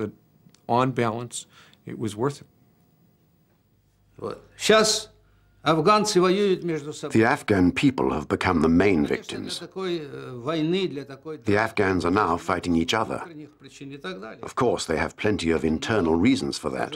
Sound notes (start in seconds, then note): 3.0 speaking Russian